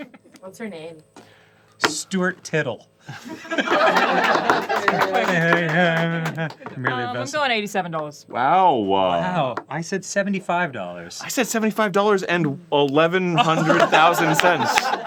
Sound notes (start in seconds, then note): 3.1 laughter and applause